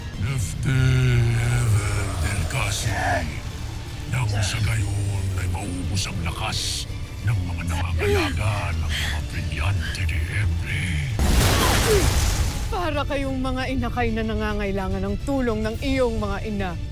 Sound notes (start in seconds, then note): 11.1 grunts & powerful blast; 11.2 sparkling whoosh